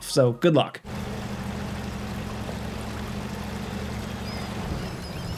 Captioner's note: truck engine whirring